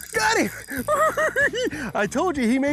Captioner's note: giggles